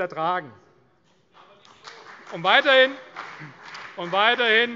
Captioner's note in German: Beifall CDU